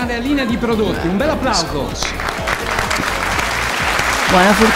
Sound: a huge applause!

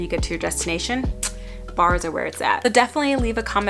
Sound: tongue clicks

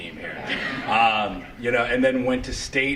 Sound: laughter

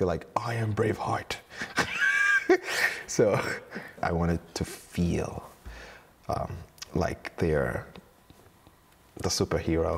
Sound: laughs

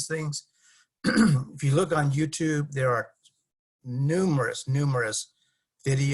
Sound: cough

